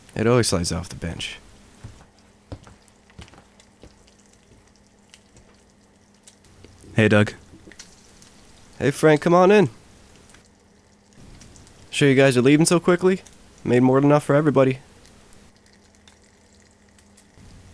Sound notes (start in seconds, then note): 2.9 footsteps